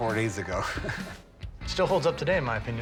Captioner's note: chuckles